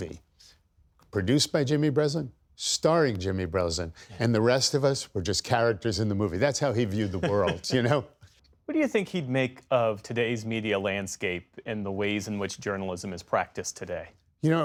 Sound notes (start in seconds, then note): 6.9 laughter